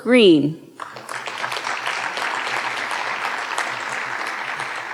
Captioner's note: audience applauding